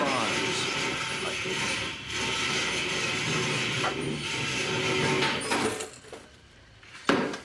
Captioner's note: dragging chair across the floor